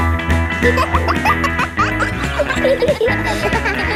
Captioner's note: kids laughing; pop music playing